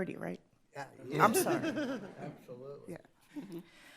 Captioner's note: laughter